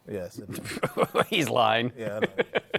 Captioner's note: laughs